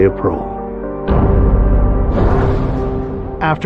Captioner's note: gavel bangs